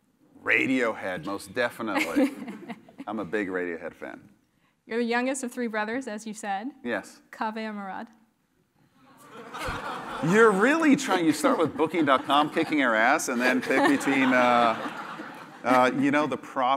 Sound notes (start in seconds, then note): 1.9 laugh; 9.2 laugh